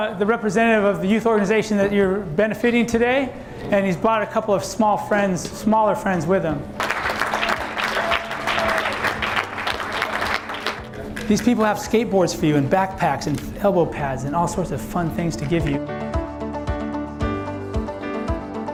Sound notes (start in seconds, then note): 6.8 clapping